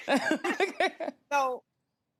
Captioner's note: women laugh